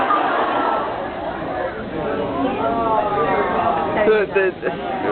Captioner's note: laughs, awws; various chatter, laughs, and reactions